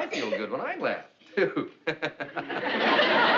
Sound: laughing

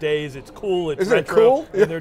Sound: laughs

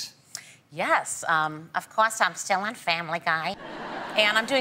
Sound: uses character voice; audience laughs

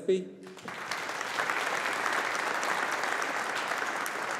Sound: audience applauding

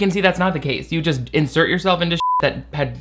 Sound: beep

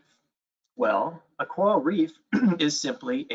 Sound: clears throat

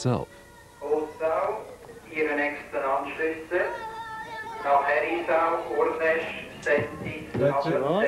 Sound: PA Announcement and chaos

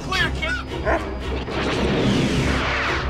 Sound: bark; missiles firing

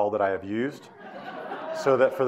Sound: audience laughing

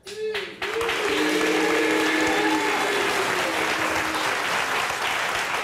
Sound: audience applauds

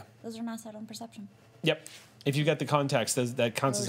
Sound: none

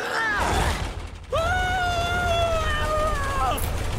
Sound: grunting; screaming

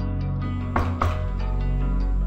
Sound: knocking

